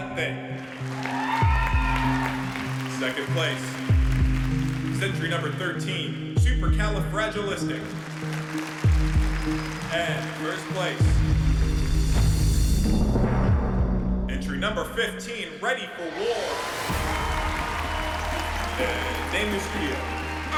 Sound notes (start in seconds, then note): 0.0 cheering and applause; 7.2 applause; 16.0 cheering and applause